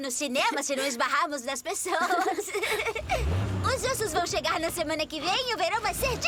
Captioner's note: giggling